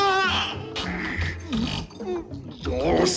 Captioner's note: yelling